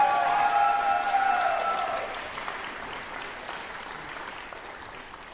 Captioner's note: applause